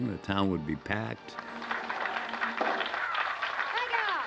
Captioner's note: applause